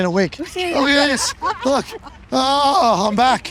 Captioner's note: people laughing